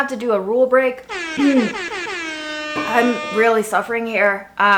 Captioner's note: dramatic buzzer sounds